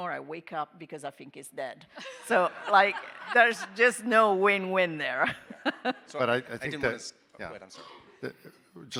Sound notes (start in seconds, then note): 2.0 all laughing; 5.6 chuckling